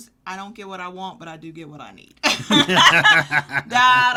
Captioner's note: both laugh